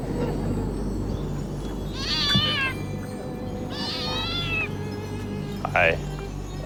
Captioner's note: distant, echoing laugh; meowing